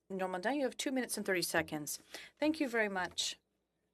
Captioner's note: speaking French